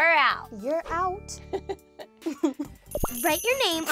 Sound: laughs

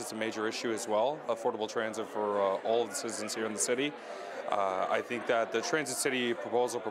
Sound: none

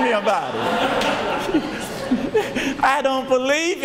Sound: audience laughs

